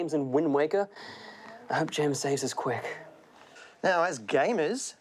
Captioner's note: quietly